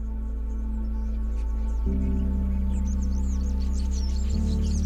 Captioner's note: birds chirping